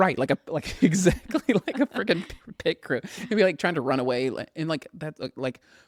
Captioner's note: laughing; laughs